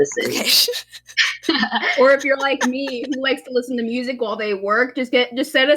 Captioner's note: laugh